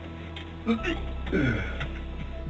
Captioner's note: retching